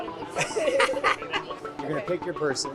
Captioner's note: laughs